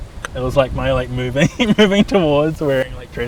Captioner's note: laughs